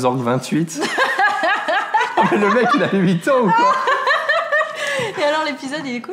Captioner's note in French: Rires